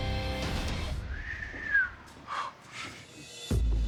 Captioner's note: whistles